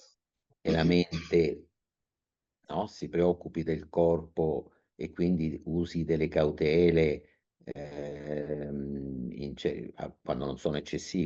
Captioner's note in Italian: schiarire la voce